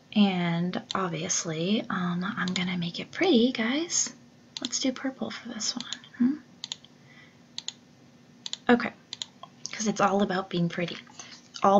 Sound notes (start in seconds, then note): 7.6 mouse clicks